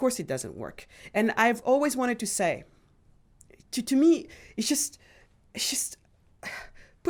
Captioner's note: sighs